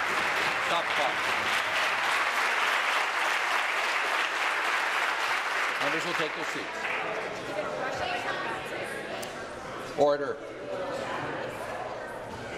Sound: some Applause

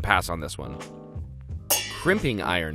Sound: pans clanging

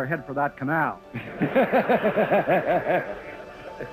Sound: Reagan and everyone laughs

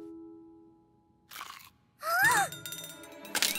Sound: crunching; gasps

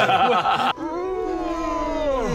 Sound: yawns

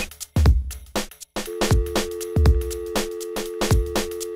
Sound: dial tone

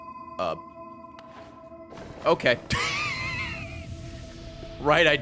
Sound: laughs

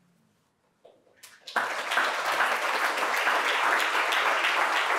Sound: audience applauding

